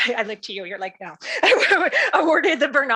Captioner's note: laughs